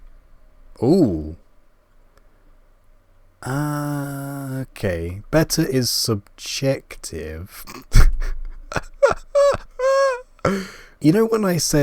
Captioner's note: laugh